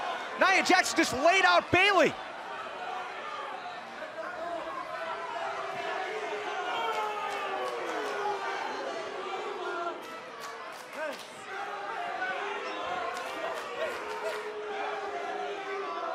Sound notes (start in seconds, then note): 7.6 cheers & boos; 12.0 fans chanting